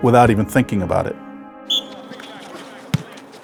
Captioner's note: whistle blows